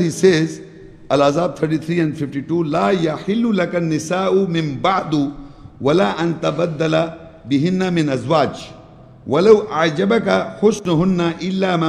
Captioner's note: Arabic